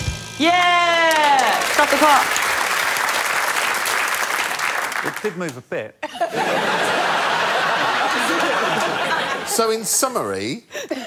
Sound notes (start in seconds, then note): 2.7 applause; 6.0 laughter